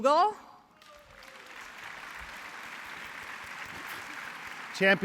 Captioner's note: applause